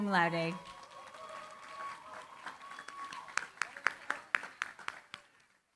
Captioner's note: cheering, applause